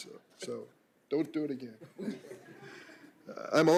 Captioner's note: laughter